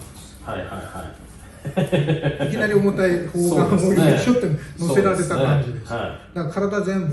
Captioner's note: laughs